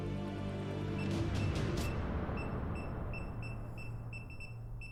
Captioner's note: keypad beeping